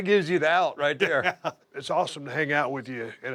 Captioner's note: laugh